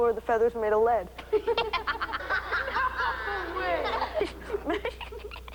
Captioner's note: class giggles